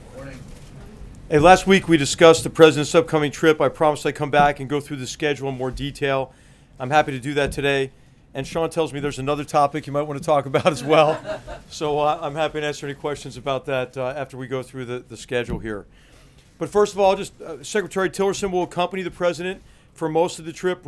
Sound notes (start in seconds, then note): 10.5 laughter; 10.6 laughs